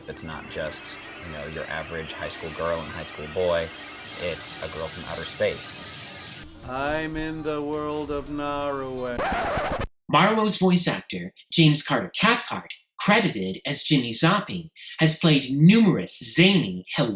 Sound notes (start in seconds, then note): 6.5 speaking Slowly; 8.9 turntable needle scratches